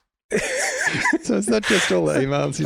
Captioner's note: all laughing